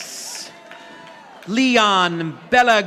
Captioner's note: audience applauding